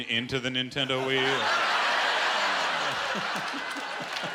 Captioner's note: laughter